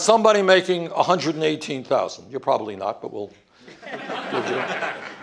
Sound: laughter

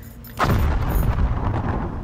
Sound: explosion

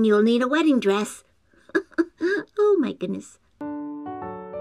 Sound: giggle

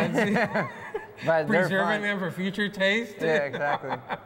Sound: laughs

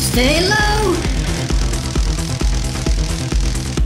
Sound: crackling electricity

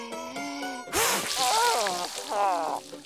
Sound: groaning

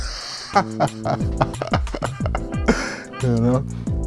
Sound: laughs

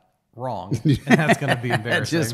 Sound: laughs

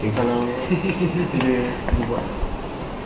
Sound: laughing about their secret scheme

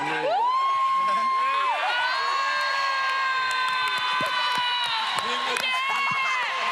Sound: cheering

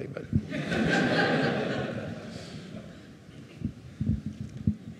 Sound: audience laughing

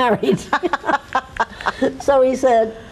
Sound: laughs

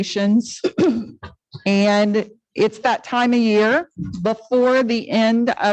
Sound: clears throat

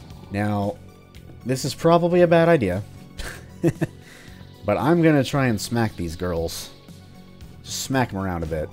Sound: chuckle

